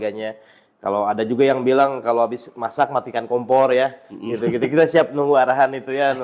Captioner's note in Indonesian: hehehe